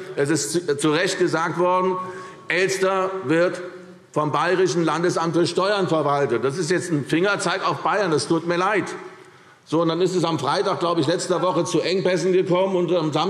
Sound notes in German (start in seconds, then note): none